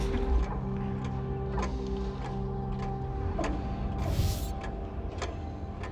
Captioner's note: ticking